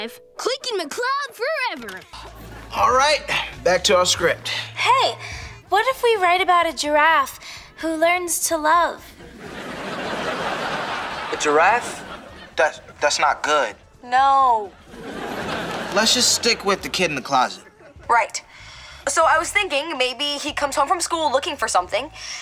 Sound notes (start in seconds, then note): 9.2 laughing; 14.7 laughing